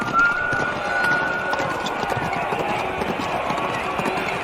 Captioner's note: horses galloping; crowd chattering